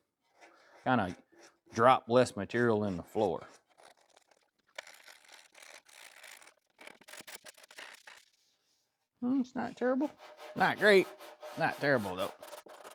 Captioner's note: scraping